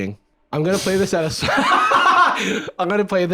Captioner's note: laughs